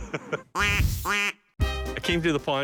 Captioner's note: quacks